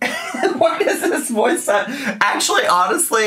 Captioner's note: laughing